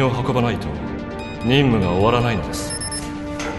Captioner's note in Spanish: tecleo de una clave y verificación